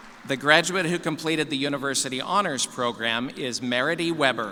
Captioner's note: applause